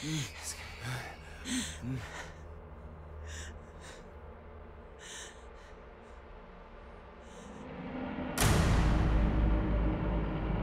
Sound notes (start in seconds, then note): 1.7 heavy breathing; 6.2 dramatic music